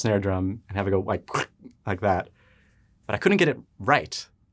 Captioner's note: quacks